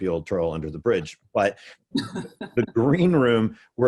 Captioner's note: laughs